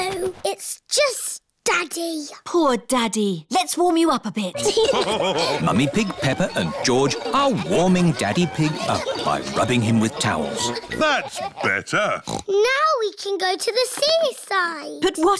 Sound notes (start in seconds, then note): 4.5 laughter; 12.1 oinks